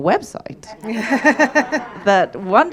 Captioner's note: audience laughing